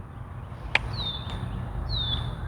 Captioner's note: thinking click